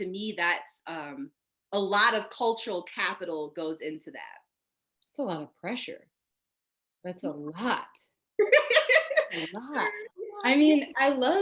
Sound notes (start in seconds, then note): 6.7 laughing